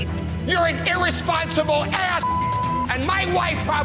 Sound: beep

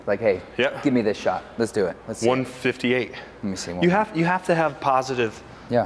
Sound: none

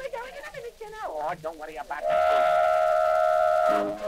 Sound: horn blasts

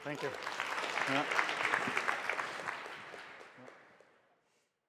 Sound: applause

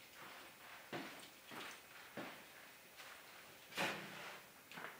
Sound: footsteps

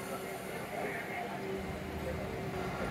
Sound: hydraulics

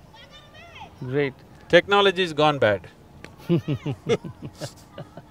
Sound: laughs

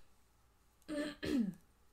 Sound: clears throat

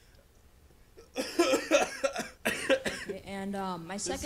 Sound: coughs

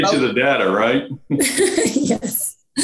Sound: chuckles

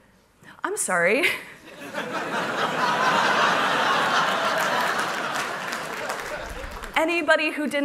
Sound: laughter

